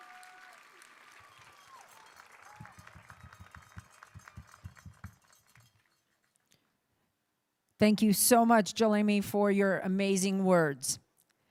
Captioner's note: applauding